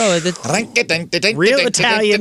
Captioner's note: mimics music